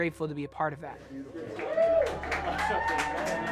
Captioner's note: crew cheering